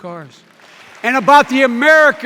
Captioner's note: cheers and applause